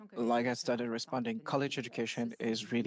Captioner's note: speaking French